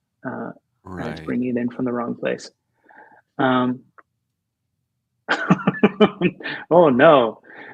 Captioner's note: laughter